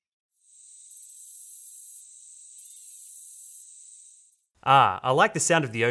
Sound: crickets chirping

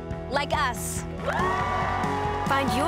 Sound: cheering and applause

